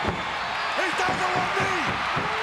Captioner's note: crowd cheers